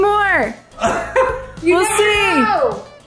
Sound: giggling

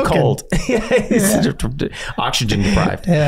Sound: Glenn laughing

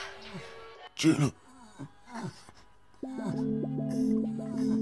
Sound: Mr. Page gasping

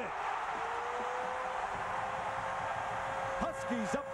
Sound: cheering, applause

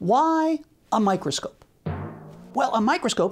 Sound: boing

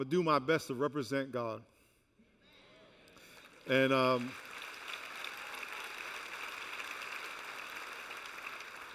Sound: applause

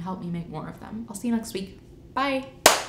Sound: clap

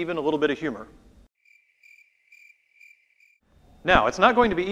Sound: crickets chirping

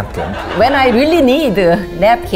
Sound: audience laughs

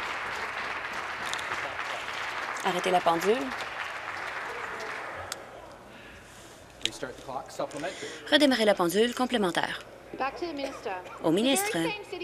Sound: applause

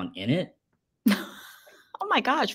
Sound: laughs

